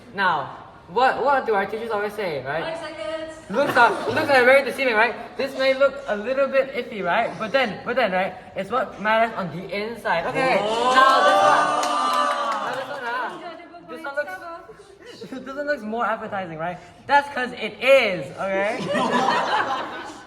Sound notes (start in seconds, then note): 10.5 everyone exclaims; 19.0 everyone chuckles